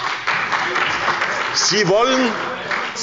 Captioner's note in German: Beifall bei der SPD